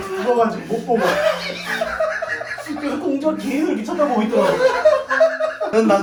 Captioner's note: laughing soooo hard lol